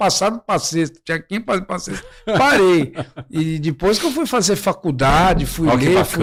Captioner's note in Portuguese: risadas